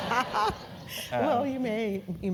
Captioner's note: laugh